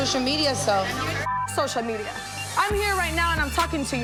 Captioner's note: beep